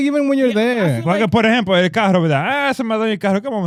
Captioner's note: speaking In Foreign Language